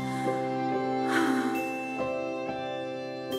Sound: sighs

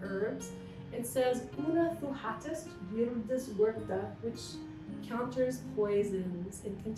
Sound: non-english speech

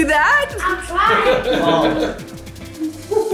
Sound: laughs

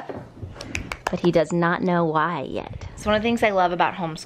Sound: claps

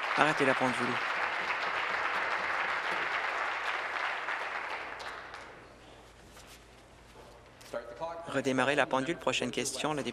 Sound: applause

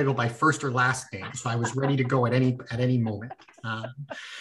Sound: laughter

